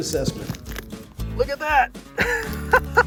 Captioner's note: laughs